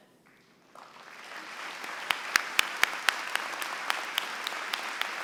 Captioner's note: applause